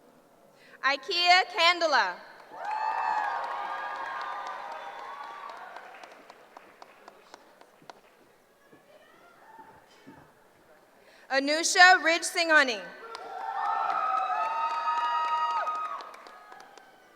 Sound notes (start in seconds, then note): 2.5 cheering; 13.0 cheering